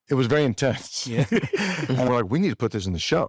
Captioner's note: laughs